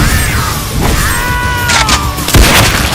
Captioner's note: Iron Carbuncle feels the Slash annd cries out a mild scream